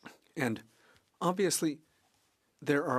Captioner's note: speaking French